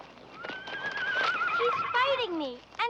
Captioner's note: Danny whinnying